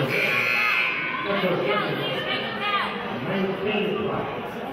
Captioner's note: murmurs; buzzer honks